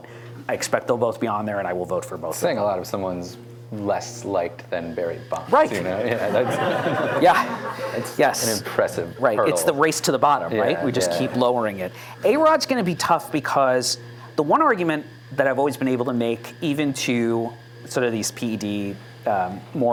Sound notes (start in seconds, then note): 6.0 laughter